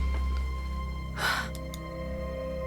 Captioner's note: sighs